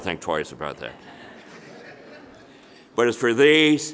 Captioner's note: audience laughing